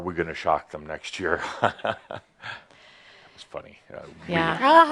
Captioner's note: chuckles, but no one else does